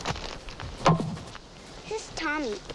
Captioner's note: hatchet thumps